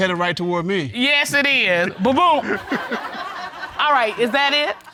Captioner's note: all laughing